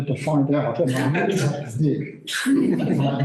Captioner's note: laughter